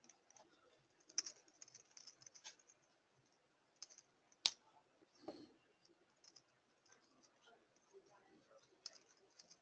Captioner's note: pause